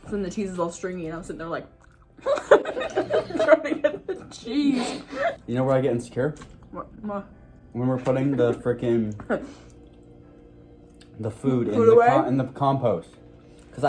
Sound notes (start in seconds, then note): 2.2 both laugh